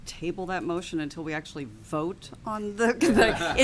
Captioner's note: laughter